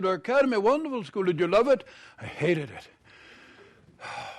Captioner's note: sighs